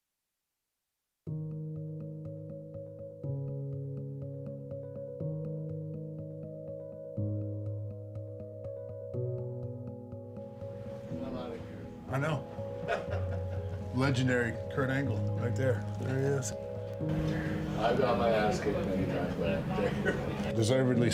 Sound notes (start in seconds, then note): 1.6 gentle music; 12.8 Kurt laughs